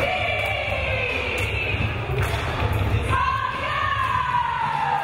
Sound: crowd cheering

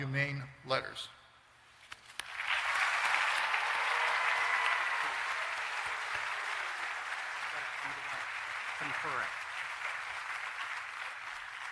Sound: applause

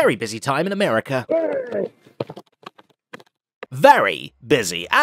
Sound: mouth mixing noises

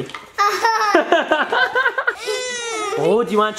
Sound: laughing

